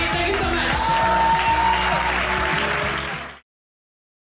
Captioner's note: audience cheering